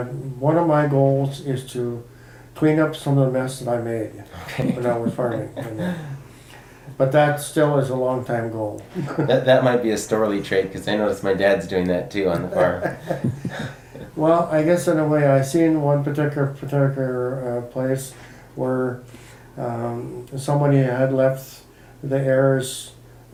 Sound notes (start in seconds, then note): 4.3 chuckle; 12.4 laughs